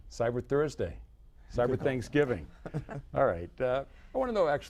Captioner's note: laughter